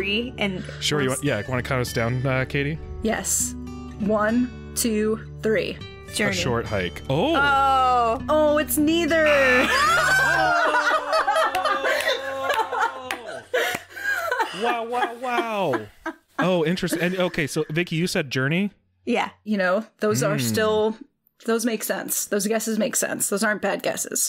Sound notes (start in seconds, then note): 9.2 all Laughter